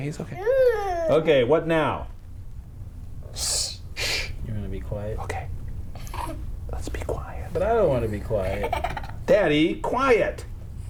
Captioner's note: whispers